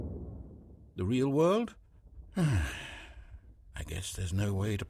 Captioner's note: sigh